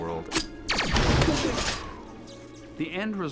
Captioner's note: explosion